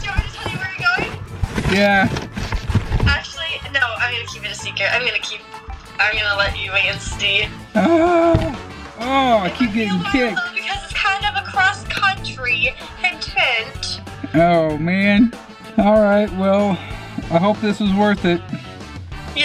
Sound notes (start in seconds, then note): 2.6 box rattles; 7.7 dad moans